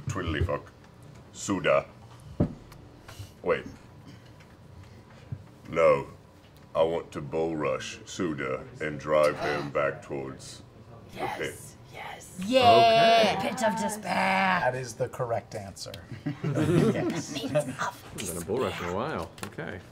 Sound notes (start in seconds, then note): 16.2 laughing